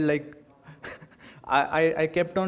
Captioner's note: laughs